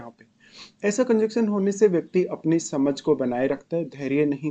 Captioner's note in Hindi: नाक से की जाने वाली आवाज़